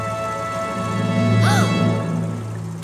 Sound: gasping

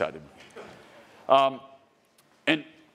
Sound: attendee laughs

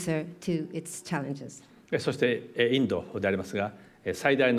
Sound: speaking japanese

